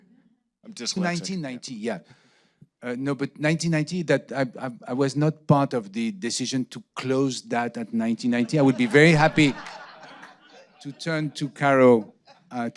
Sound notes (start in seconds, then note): 8.2 audience laughing